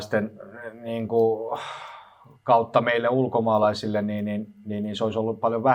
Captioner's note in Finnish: huokaus